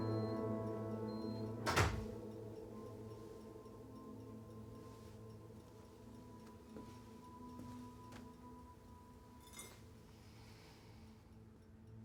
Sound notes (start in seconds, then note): 1.6 door closes